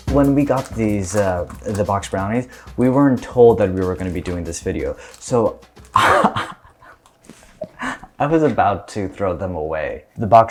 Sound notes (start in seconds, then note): 5.9 laughs